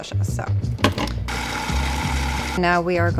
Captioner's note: food processor sound